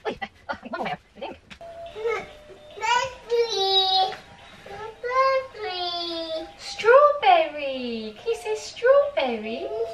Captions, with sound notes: (baby babbles) - Strawberry, can you say strawberry?